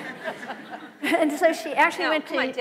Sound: laughter

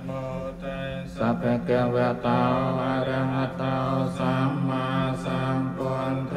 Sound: monks chant in foreign language; all chant in foreign language

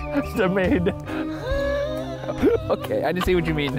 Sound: laughs

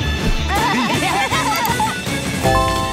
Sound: all laughing

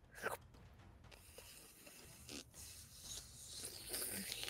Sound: sliding squelch

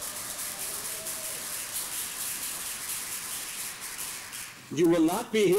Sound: applause

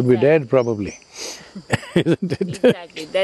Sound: laughs

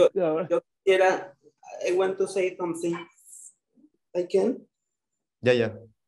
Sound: speaking in foreign language

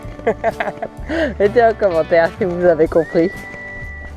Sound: in french

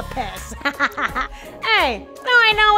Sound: laughter

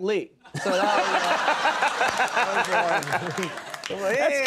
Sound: Conan audience laughing

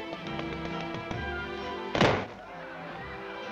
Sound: loud stomp

